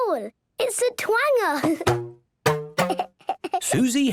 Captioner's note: giggling